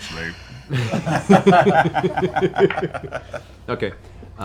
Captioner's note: laughter